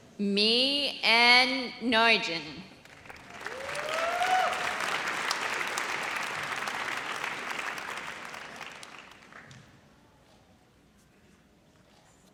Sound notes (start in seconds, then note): 3.0 audience cheers